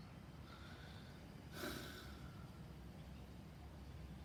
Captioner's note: sighs